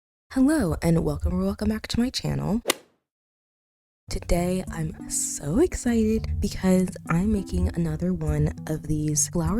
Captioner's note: golf hit sound effect